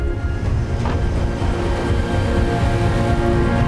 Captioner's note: wind rustling